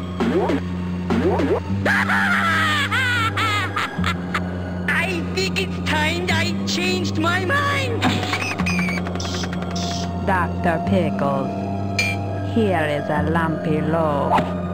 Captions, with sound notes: (DR. PICKLES cackles) I think it’s time I changed my mind! Dr. Pickles, here is a lumpy load.